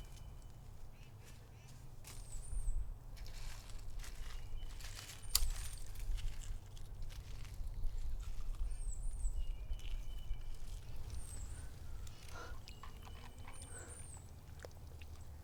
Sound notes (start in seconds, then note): 12.6 water sounds